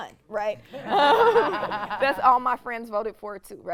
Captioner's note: laughing